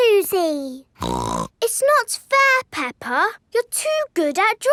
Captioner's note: snorts